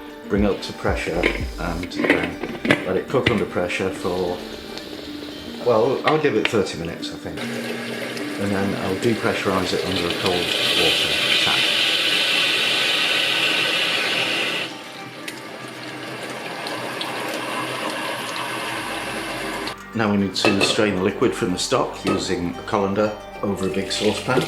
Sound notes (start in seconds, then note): 11.5 loud hissin